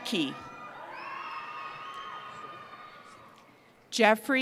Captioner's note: cheering